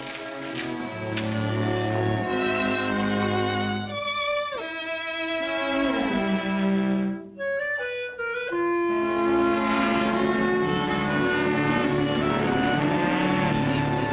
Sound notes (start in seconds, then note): 0.6 evocative music; 10.3 cows mooing